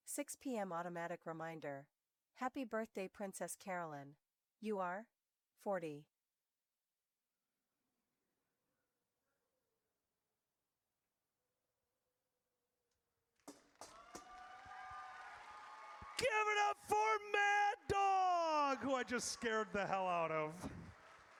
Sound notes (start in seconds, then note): 13.6 audience cheers